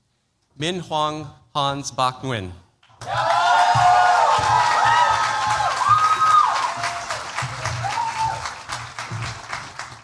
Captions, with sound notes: Minh Huong Hans Bach-Nguyen. [CHEERS, APPLAUSE]